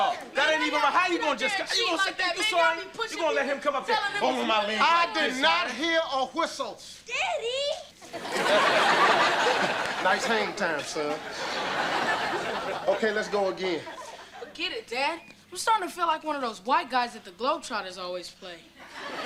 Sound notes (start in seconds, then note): 8.0 audience laughter